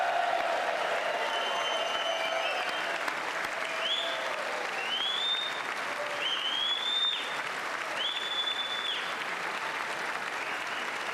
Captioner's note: applause